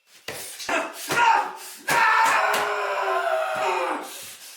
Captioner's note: Phil screams